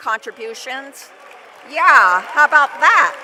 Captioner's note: applause